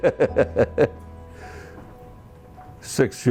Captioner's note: laughs